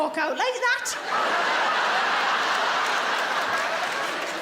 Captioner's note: audience laughs